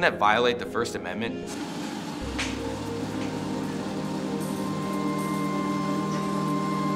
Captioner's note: treadmill whirring over dramatic electronic music